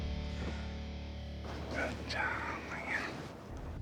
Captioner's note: whispers